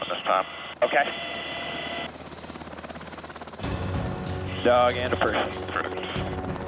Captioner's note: man Over Radio